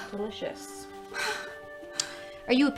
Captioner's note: labored breathing